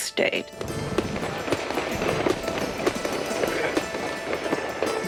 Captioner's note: explosión de fuegos artificiales